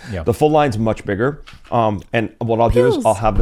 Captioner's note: pills rattling